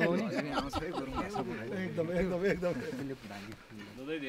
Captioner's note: laughter